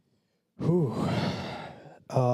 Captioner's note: exhales heavily